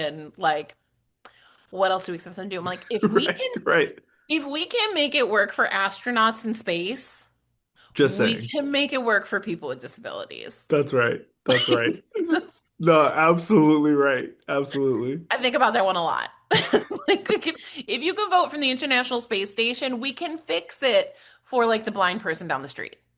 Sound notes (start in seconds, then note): 11.5 laugh; 16.5 laughs